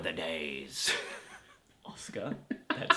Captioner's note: laughs